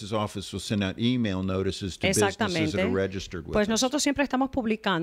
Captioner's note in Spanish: Hablando ingl\s